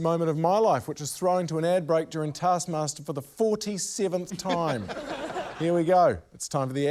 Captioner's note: laughter